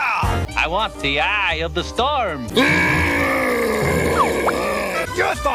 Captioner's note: roaring